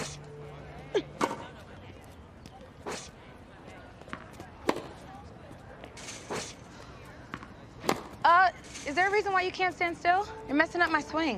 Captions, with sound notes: Uh! [Ball hits fence] Uh, is there a reason why you can't stand still? You're messing up my swing.